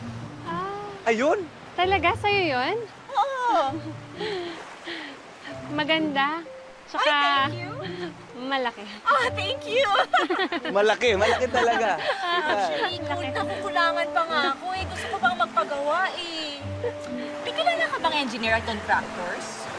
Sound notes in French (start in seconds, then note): 3.5 chuckles; 9.8 giggles